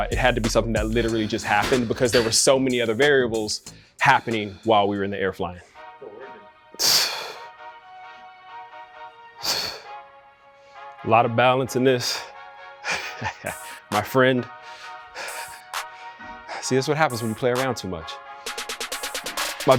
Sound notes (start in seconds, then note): 5.6 upbeat music; 9.4 Jay breathing deeply; 12.8 laughs